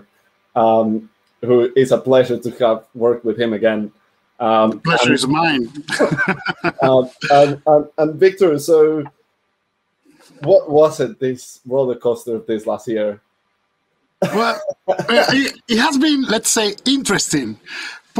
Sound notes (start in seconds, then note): 4.7 laughs; 14.2 laughs